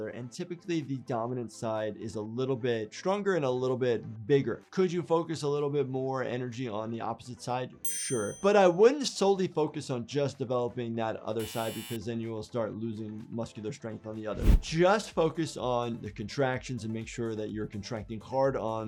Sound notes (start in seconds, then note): 7.8 bell ringing; 11.4 buzzer buzzing